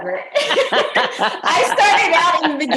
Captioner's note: laughter